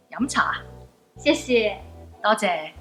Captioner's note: speaking foreign language